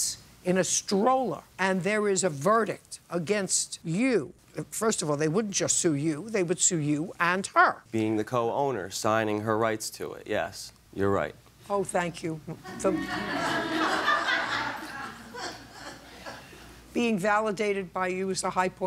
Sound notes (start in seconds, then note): 12.6 laughter